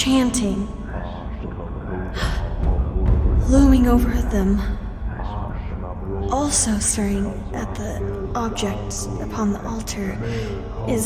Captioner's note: gasp